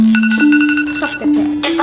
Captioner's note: timer beeps